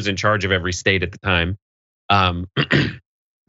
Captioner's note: cough